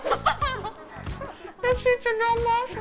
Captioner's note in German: Sie lacht